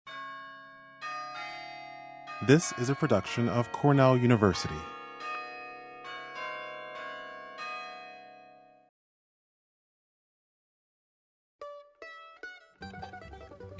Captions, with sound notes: [BELLS CHIMING] SPEAKER 1: This is a production of Cornell University.